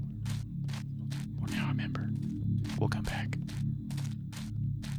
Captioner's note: whispers